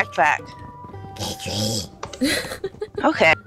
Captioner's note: monster voice; giggles